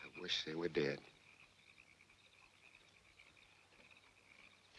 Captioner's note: frogs croaking